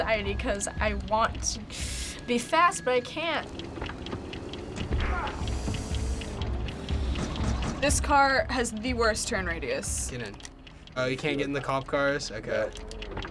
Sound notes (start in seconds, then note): 3.4 breathes deeply; 3.4 punch lands, man groans